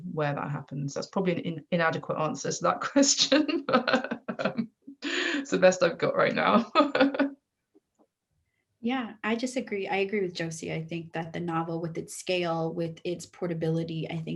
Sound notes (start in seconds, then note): 3.4 laughs